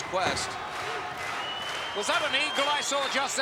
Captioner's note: crowd claps rhythmically